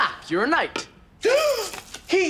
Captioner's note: gasps